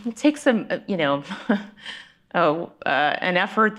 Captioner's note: chuckles